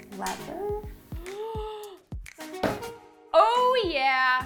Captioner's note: gasps